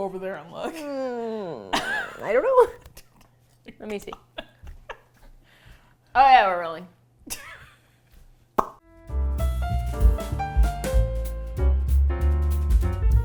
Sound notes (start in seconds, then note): 3.2 laughs; 7.2 laughs; 7.9 smacks lips; 8.8 jazz music